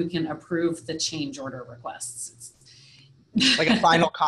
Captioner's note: laughs